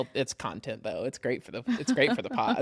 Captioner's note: laughs